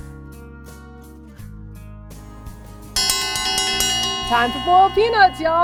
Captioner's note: dinner bell ringing